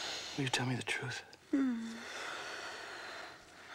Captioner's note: sighing